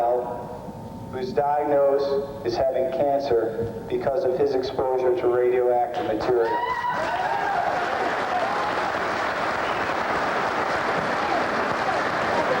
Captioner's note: applause